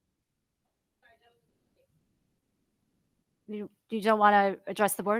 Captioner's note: speaking faintly